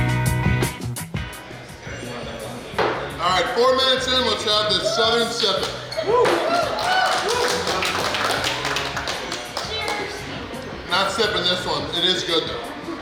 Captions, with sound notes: Alright, 4 minutes in, Let's have this Southern Sippin'!! [Cheering & Clapping] I'm not sippin' this one. It is good though!!